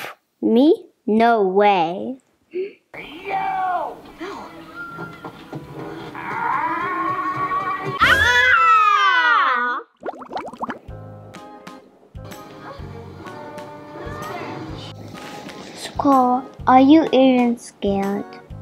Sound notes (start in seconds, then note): 8.0 screaming